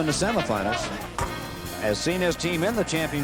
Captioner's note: swish